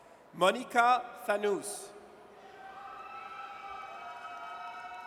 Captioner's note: audience cheers